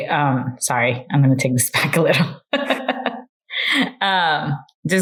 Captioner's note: laughs